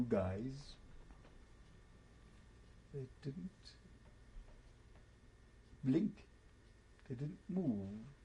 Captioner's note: pauses for 3 seconds